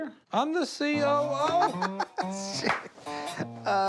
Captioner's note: laughs